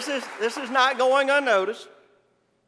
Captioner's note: applause